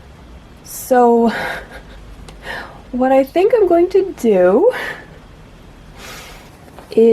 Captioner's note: laughs; laughs again